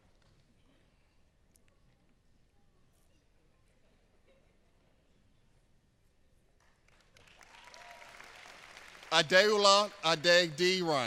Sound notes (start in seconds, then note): 1.3 applause